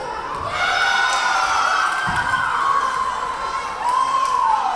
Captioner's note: cheering; yelling; cheering